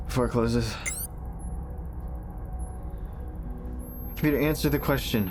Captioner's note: computer whirs